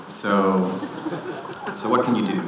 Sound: audience laughing

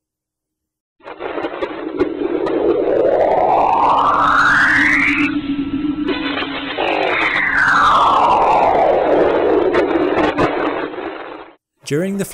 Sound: Enceladus magnetic audio

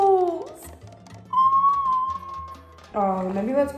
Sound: squeals

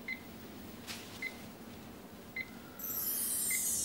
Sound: beeping

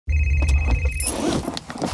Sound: cell phone rings

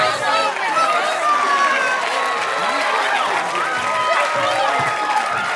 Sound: applause

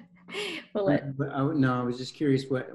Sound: laughs

